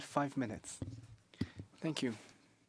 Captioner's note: speaking French